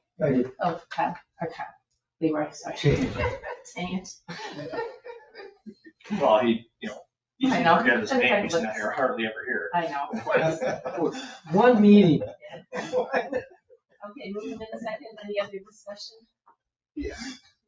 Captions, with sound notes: I did. Oh, Kyle. Oh, Kyle, he will accept it. (people chuckle) Well, he, you know. I know. Hard to remember his name, he's hardly ever here. I know. (people chuckle) I was absent for one meeting. Okay, a motion and a second. Any other discussion?